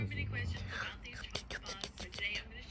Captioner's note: Nom, nom, nom, nom